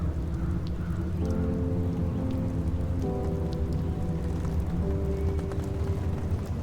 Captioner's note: rain pattering; crows cawing